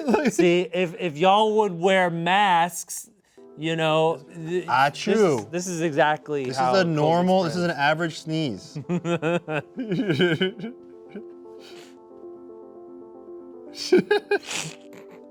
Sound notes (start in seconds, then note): 8.8 both chuckling; 11.8 gentle music; 13.7 both snickering